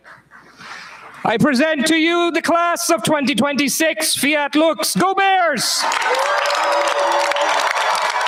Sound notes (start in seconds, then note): 5.7 cheers, applause